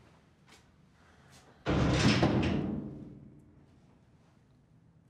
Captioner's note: door closes